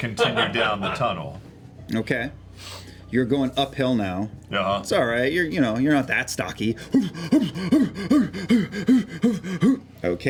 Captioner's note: huffing breaths